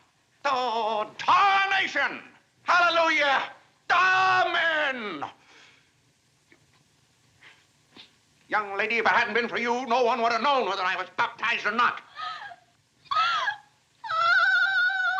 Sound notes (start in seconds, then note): 12.1 crying